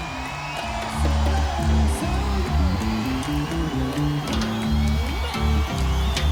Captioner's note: crowd noise